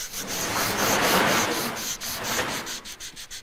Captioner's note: grinding noises